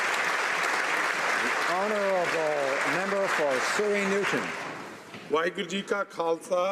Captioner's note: applause